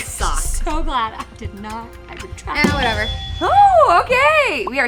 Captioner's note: buzzer rings